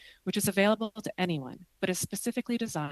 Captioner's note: speaking French